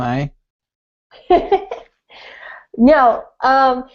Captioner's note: laughing